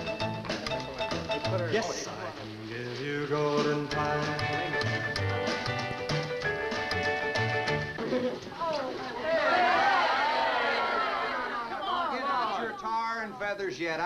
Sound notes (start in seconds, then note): 0.0 group chattering; 8.0 party goers chattering